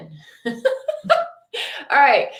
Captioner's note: laughing